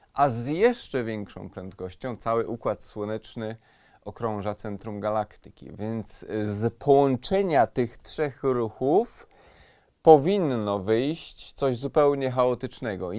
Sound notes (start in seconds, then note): none